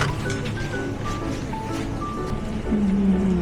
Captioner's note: cheerful footsteps